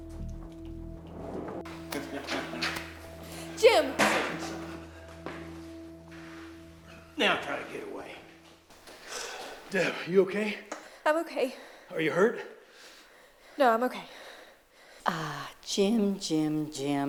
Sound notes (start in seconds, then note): 1.9 laughing